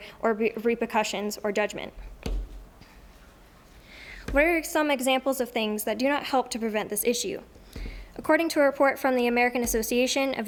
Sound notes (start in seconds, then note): none